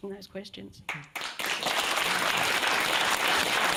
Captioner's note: applause